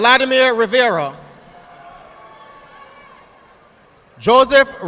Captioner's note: audience applauding